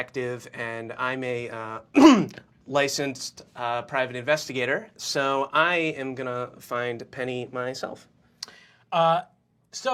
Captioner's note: coughs